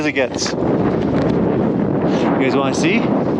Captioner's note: wind blowing